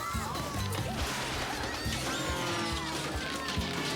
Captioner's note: screaming